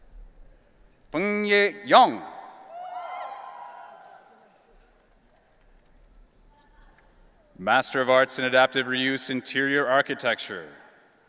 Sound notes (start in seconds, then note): 2.6 audience cheering